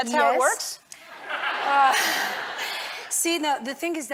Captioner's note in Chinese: 笑聲